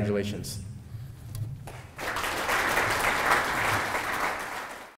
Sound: clapping

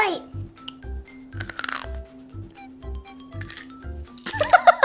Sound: crunching sound; laughing

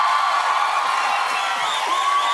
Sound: cheers and applause

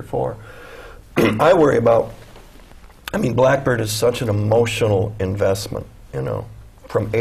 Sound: cough

